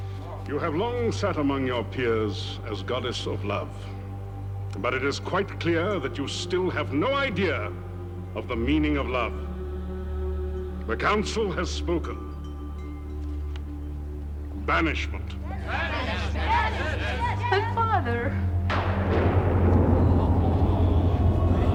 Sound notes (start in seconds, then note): 18.6 thunder claps